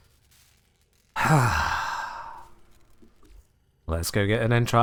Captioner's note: exasperated sigh